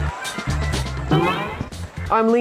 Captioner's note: boing